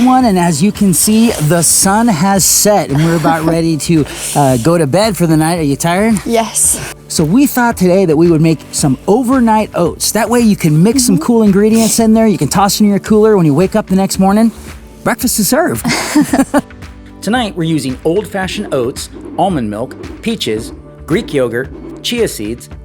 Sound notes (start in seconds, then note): 15.8 both chuckle